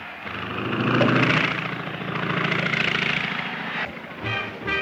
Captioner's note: airplane buzzing